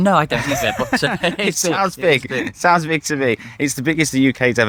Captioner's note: laughing